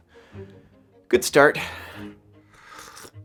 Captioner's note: sip